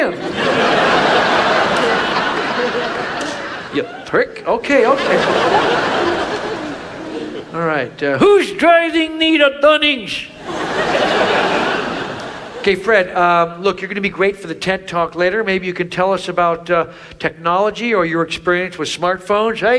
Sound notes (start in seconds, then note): 0.0 audience laughs; 10.2 audience laughs